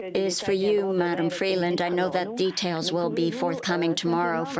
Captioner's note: speaking French